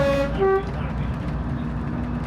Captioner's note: horn honking